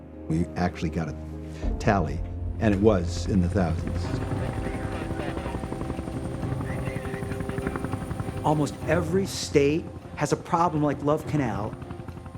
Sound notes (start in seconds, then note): 3.5 helicopter engine running, people talking on radio